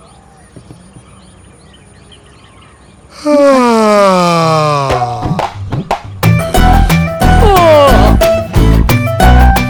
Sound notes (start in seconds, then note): 3.1 he yawns; 7.4 he also yawns